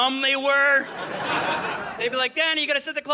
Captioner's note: audience laughing